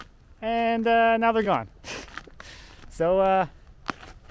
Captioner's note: chuckles